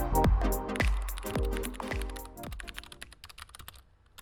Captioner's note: keyboard clicking